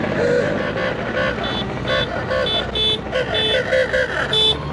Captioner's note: cars honking; motorcycle engine